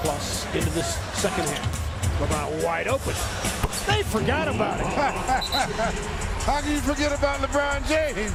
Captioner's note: crowd noise